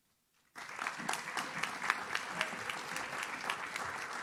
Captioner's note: audience claps